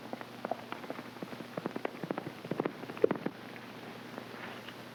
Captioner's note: hooves clopping